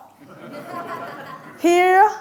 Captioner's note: audience laughing